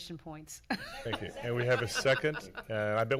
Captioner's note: laughing